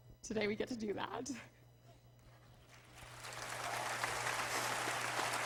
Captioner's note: applause